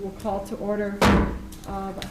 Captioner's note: gavel pounds